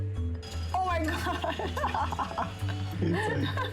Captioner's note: laughter